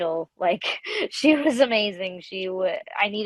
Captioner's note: laughs